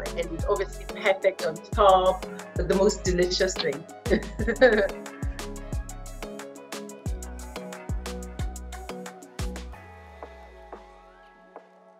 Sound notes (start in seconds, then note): 4.0 laughing; 7.4 groovy music